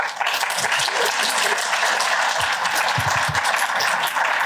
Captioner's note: applause